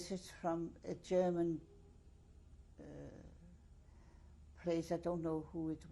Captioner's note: pauses for 3 seconds